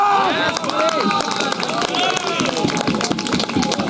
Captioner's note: applause